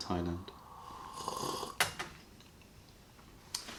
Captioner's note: sips tea